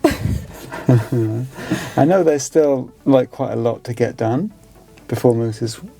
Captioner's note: laughing